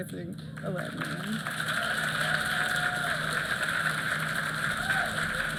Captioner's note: applause